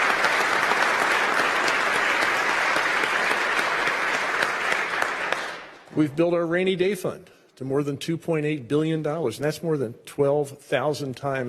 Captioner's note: applause